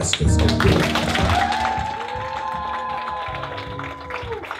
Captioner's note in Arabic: الهتاف والتصفيق